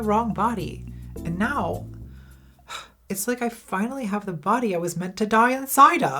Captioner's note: sighs